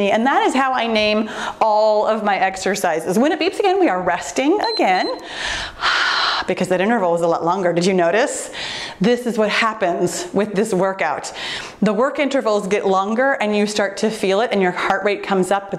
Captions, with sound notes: And that is how I name all of my exercises. When it beeps again,(timer beeps) we are resting again. Ah, because that interval was a lot longer. Did you notice? This is what happens with this workout. The work intervals get longer and you start to feel it and your heart rate comes up